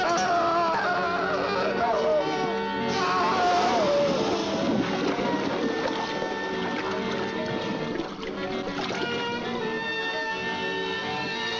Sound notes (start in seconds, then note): 2.9 acid sizzling; 3.0 man screaming